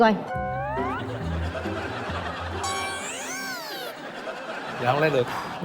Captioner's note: laughing+Music theme